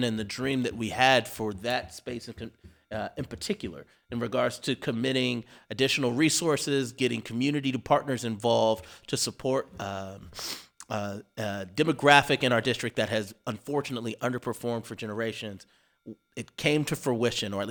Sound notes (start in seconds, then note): none